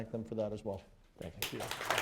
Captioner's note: applause